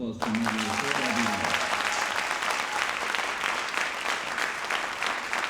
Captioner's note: audience applauding